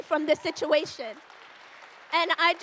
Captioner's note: audience applauds